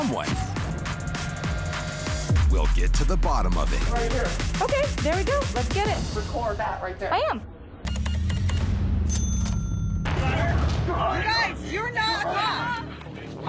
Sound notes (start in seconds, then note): 0.3 tense music playing; 9.0 cash register beeps, dings; 9.8 indistinct chatter